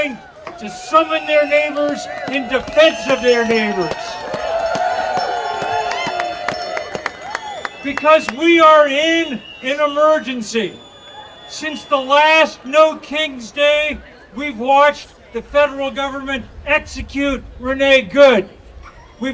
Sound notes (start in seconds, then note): 4.8 audience cheering